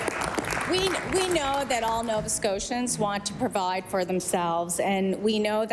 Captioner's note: applause